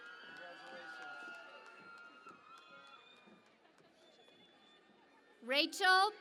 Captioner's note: cheering and Applause